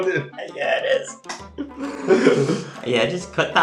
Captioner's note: laughs